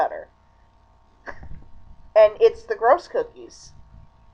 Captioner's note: chuckle